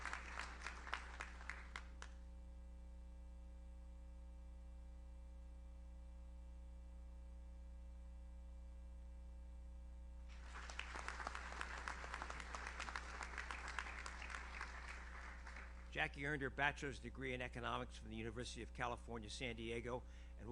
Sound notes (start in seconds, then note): 10.3 audience applauds